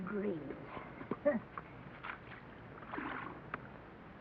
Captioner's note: scoffs